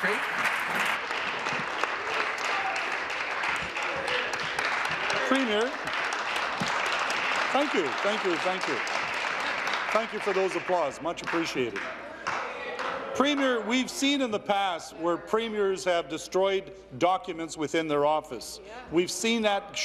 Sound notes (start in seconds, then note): 2.0 applause